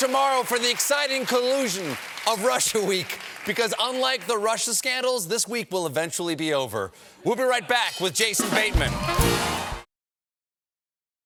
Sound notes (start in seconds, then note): 8.4 band playing; 8.5 cheers and applause